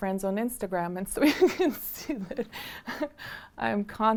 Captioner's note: laughing